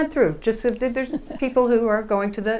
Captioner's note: laugh